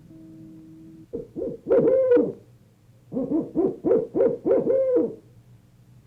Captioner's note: owl hooting